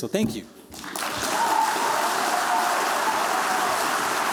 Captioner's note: cheering, applause